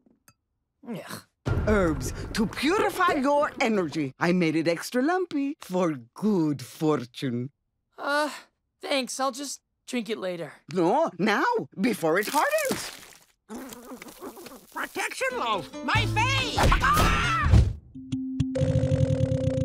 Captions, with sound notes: Ugh. Herbs, to purify your energy, I made it extra lumpy, for good fortune. Uh, thanks, I'll just drink it later. No, now, before it hardens. Protection loaf, my fave. [squawking]